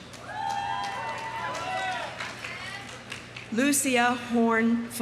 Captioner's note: audience applauding; audience cheering